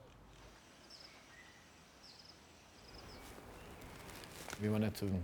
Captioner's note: birds chirping